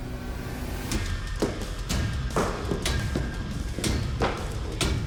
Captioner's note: chopping sound